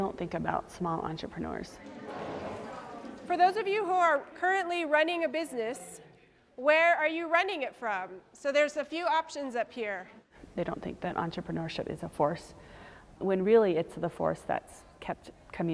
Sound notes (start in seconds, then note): 4.1 crowd murmuring